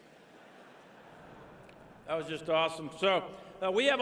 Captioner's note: laughter